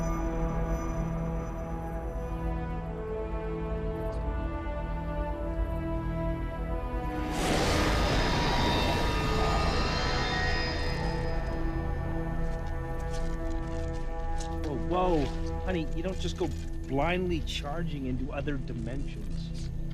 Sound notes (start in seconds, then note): 0.1 dramatic music; 7.2 doorway whooshing